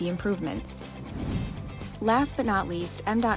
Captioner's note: swoosh sound effect